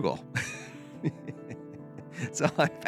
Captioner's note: laughs